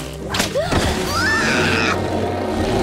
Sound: screaming

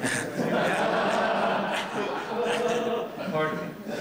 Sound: laughter

